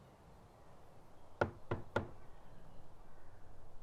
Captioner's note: knocks